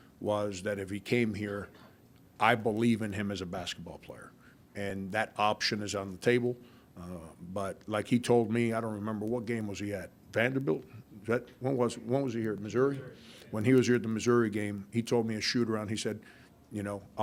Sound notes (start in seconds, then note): none